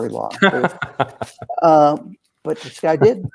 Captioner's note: laughing